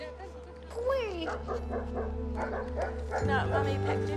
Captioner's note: dogs bark